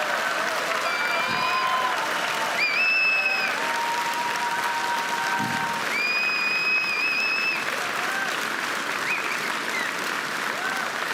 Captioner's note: applause and cheering